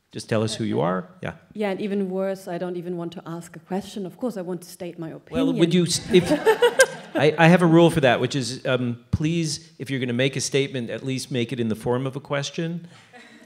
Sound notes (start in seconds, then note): 5.9 laughter